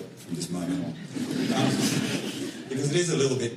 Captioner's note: laughter